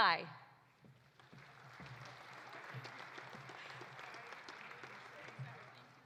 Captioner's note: audience applauding